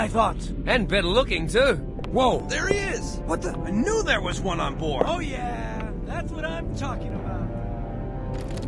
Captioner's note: excited nonsense